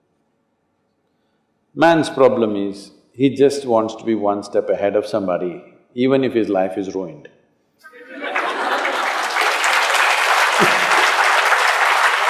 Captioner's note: laughter/Applause